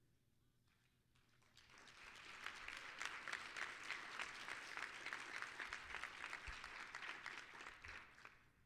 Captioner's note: applause